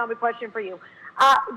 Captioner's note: laughs